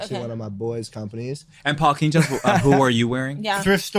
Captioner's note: laughs loudly